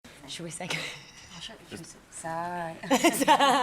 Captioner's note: laughter